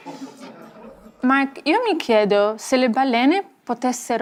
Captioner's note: speaking Italian